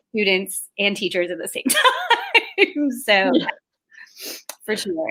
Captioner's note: laughs